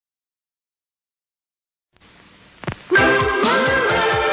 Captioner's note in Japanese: 無声・無音